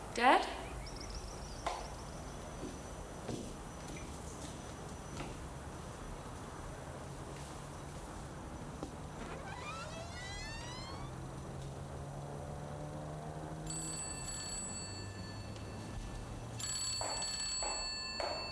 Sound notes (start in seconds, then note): 8.8 door creaking; 13.7 phone ringing